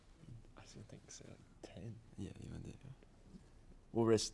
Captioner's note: whispering